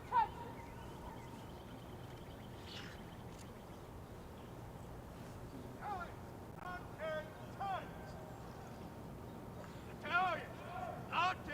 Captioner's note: shouted commands